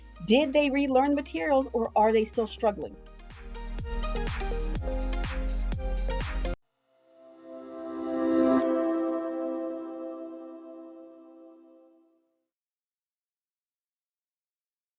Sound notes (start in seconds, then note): 3.5 bright music continues; 7.4 logo chiming